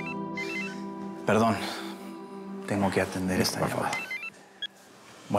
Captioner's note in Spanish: suena un celular